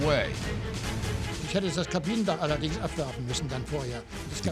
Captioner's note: speaking german